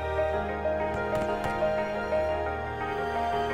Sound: rifle fire

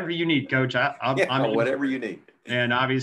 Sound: laughs

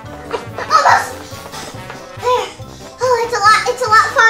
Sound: panting

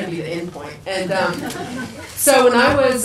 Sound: people laugh

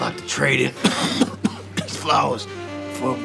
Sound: both coughing

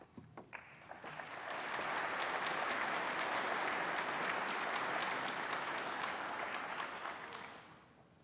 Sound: applause

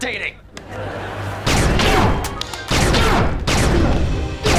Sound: grunting

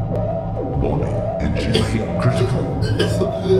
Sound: coughing

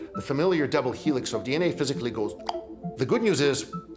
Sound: clicks tongue

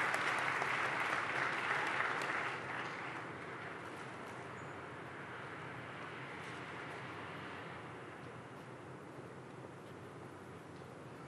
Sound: applause

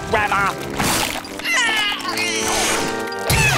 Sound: grunting

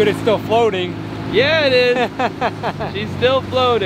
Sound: laughing

